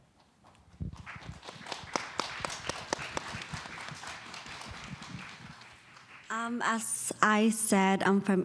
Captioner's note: applause